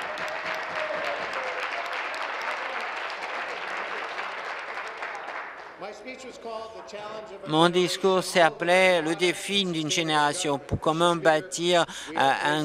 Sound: applause

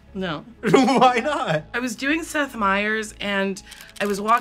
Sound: chuckles

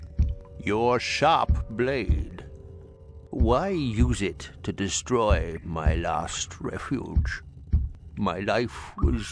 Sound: there's non-stop thumping in the background

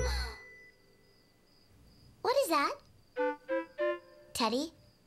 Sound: gasp!

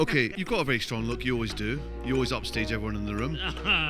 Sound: Ncuti laughs

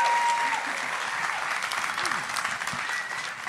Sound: applauding

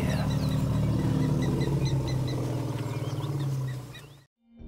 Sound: birds chirp

